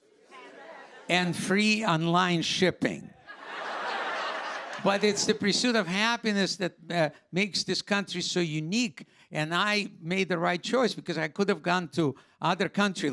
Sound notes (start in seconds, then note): 3.2 laughter